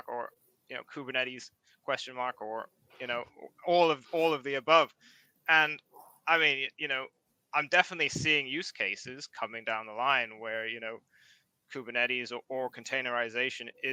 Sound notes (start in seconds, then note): none